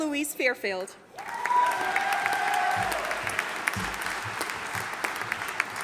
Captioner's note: audience applauding